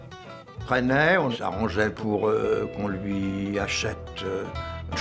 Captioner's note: French spoken audio